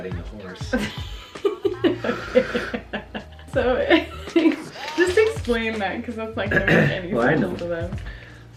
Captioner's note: laughing